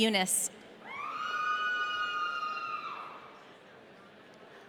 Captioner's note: audience cheering